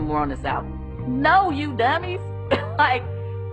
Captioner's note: giggles